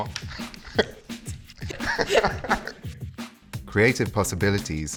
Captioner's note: both laughing